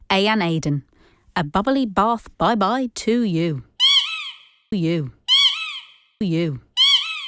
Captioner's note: sound of a rubber duck squeaking